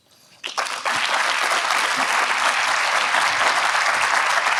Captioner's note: audience applauds